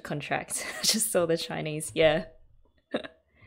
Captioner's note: laughs